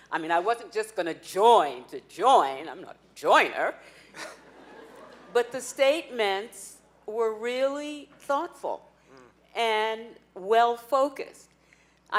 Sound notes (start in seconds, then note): 4.1 laughing